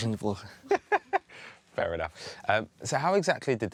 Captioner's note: laughs